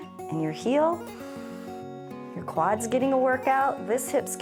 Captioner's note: inhales